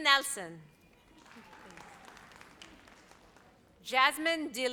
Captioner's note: audience applauds